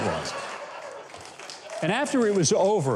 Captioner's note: audience applauds